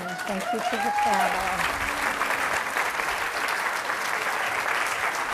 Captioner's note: applause